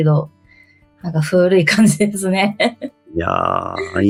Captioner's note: laughs